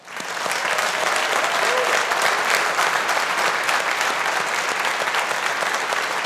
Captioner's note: audience applauding